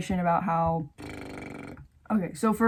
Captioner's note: bubble lips